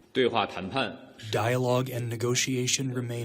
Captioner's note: through translator